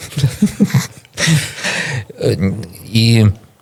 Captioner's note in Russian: смех